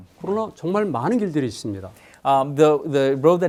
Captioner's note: speaking in Korean